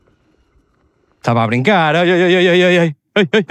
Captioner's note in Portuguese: risadas